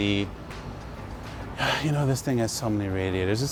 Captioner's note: sighs